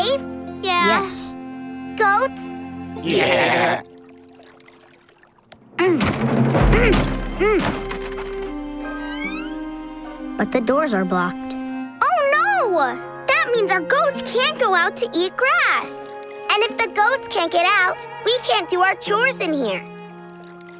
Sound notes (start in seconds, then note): 3.0 baaing; 5.4 grunting